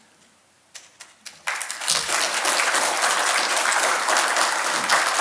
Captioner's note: audience applauds